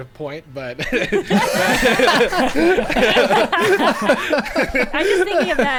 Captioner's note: players laughing